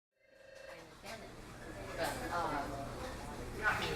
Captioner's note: phone ringing